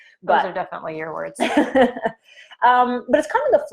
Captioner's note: chuckling